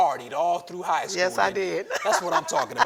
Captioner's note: laughing